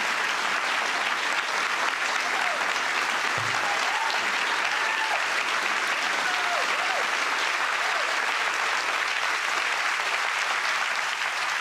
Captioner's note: applause